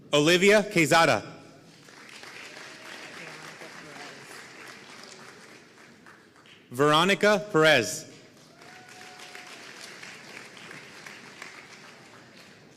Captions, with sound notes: Olivia Quezada (audience applauding) Veronica Perez (audience applauding)